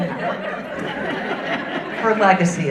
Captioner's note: audience laughing